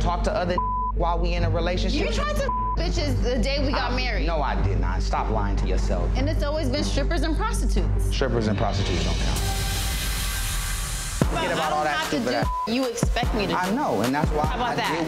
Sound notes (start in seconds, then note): 0.5 beep; 2.1 beep; 10.0 tense electronic tones; 12.3 beep